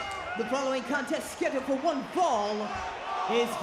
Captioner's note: bell rings